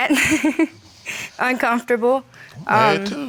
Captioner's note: laughs